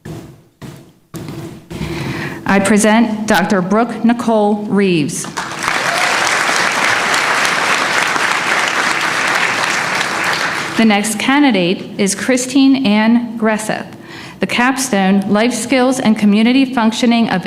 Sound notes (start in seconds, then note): 5.2 applause